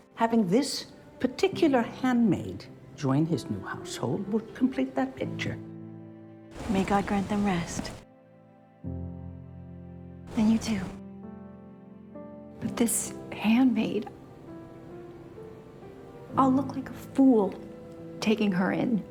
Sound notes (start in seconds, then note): none